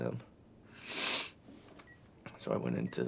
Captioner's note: Ashley snivels